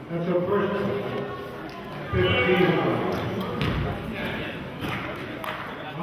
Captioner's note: murmurs